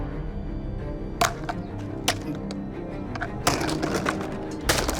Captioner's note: banging